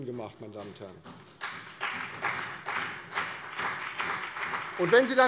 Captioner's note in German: Beifall CDU und vereinzelt BÜNDNIS 90/DIE GRÜNEN